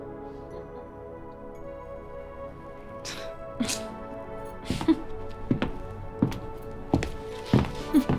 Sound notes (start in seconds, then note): 3.0 Scoffs at Stormer; 4.6 Scoffs and laughs at Stormer